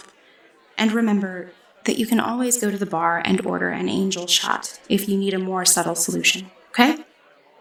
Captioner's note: none